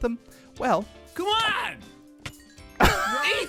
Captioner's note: swords smacking; xp chimes; others laughing